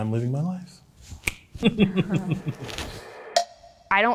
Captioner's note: snaps finger & giggles